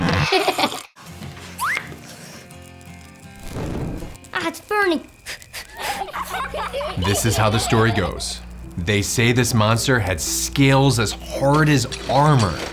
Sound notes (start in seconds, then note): 0.1 child giggles; 1.6 audio whistles; 2.5 fire crackling; 5.2 boy blowing; 5.5 children giggling